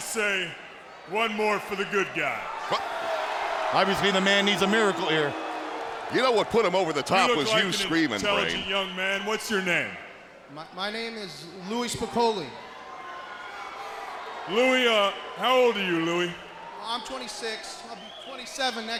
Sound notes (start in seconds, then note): 3.8 crowd cheering